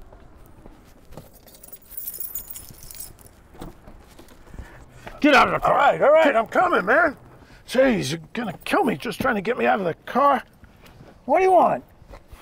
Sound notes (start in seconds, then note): 1.1 keys jingling